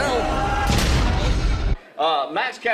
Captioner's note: loud crash